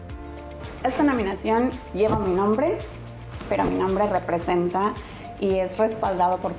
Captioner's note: speaking in foreign language